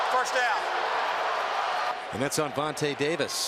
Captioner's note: crowd clamoring